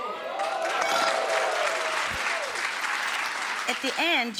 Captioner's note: applause